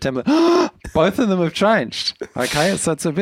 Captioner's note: gasps